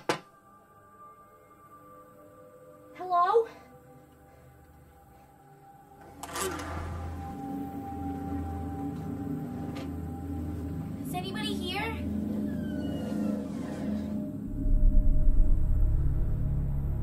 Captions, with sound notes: Hello? Is anybody here? ( Creaking )